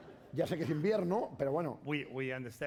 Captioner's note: speaking spanish